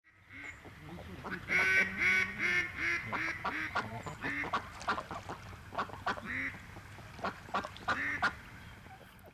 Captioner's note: duck noise